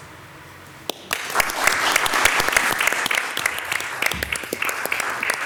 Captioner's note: everyone applauds